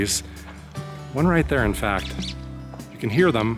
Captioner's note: bird chirping